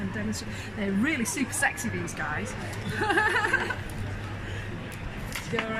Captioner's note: laughs